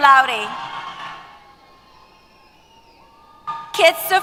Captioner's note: cheers